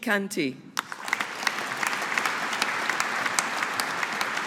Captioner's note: audience applauding